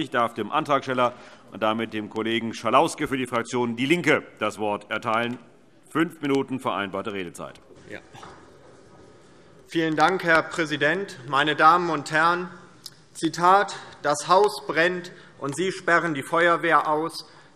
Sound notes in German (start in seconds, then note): none